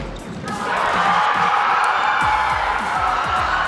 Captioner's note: crowd roars